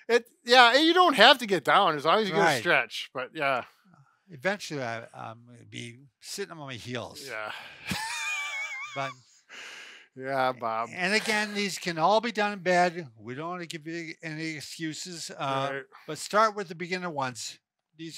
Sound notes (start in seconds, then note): 7.2 laughing